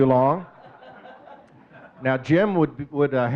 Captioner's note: audience chuckling